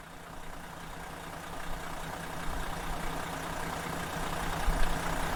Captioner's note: bus engine rumbling